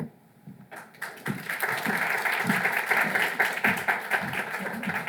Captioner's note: audience applauds